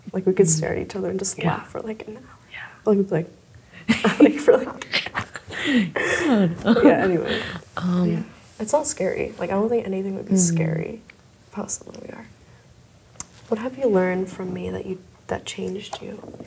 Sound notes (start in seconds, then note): 3.8 laughs